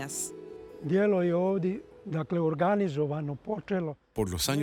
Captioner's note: Hablando idioma extranjero